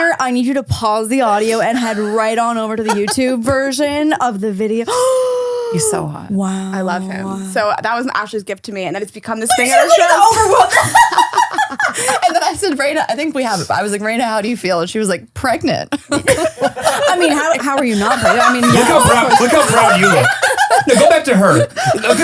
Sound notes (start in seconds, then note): 9.5 laughing; 18.5 all laughing